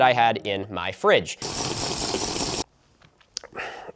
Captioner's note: Minecraft slurping noises